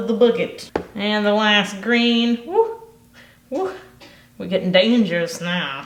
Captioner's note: hoots